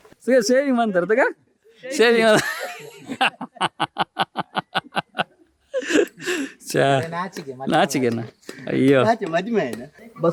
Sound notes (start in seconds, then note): 4.2 laughing